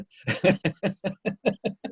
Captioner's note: laughing